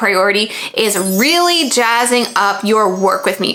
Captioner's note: stars twinkling